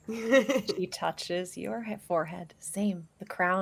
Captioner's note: laughs